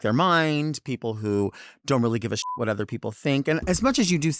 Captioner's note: beep